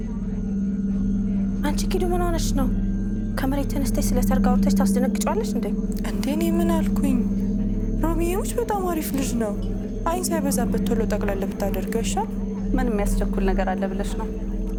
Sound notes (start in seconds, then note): none